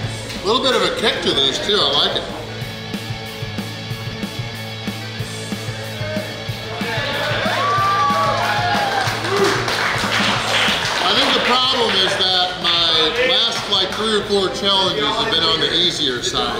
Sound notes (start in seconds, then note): 6.8 cheering & Clapping